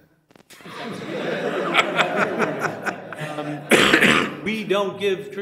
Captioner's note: audience laughing